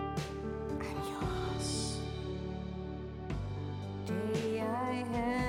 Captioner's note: whispering